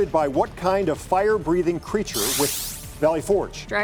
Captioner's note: digital sound effect